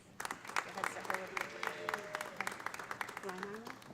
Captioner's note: audience applauding; audience cheering